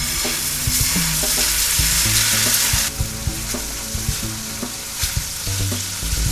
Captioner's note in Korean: 촤-앗 촤-앗 촤-앗